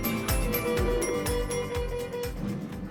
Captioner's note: doors closing